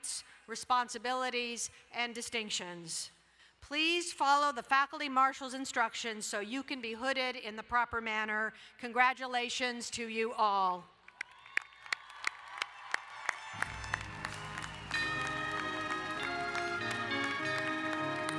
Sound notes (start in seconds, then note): 11.1 crowd cheering and applauding; 13.3 uplifting orchestra music